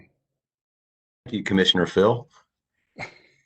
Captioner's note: laughter